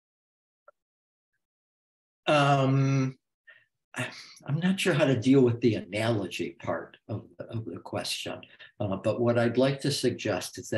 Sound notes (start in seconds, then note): 0.5 silence continues